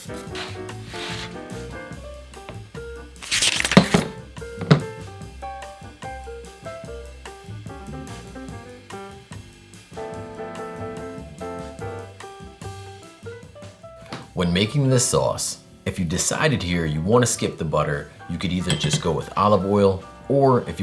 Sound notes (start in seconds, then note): 3.2 page turning; 3.2 pot slidding